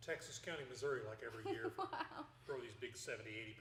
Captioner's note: laughing